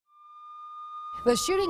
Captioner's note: siren wailing